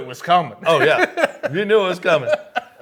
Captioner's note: laughing